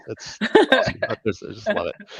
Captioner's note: laughter